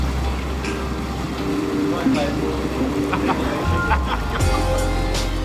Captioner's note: laughing